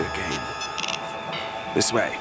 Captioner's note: beeping noises